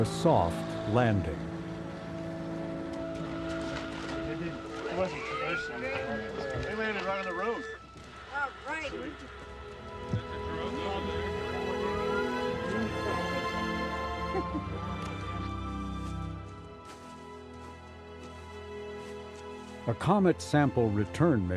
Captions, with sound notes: The winter weather makes for a cold outing, but the wet ground will hopefully make for a soft landi. (team chattering) (soft music)